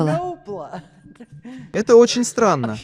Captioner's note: laughs